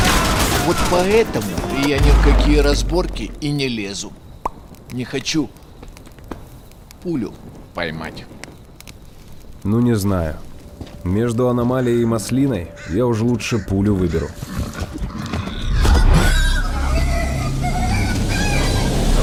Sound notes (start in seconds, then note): 4.1 curly vitya makes popping sound; 11.8 animals squawking; 15.7 animal shrieks; 17.5 ominous music playing